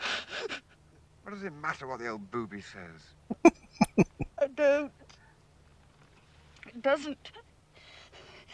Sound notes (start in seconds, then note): 3.3 chuckling